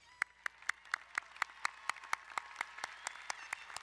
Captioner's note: applauding